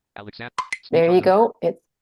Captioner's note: screen reader chattter